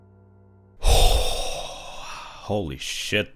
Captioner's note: deep exhale